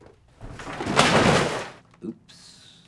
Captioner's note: loud thump